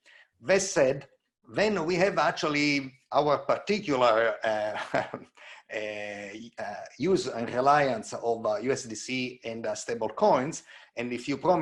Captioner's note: chuckles